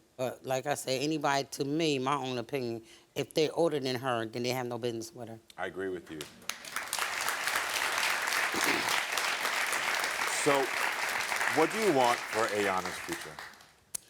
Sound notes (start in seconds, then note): 6.4 crowd cheering